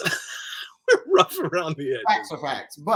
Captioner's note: laughs